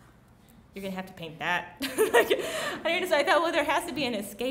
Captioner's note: laughs